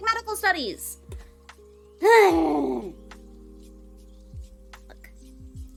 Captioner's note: exhausted trans noises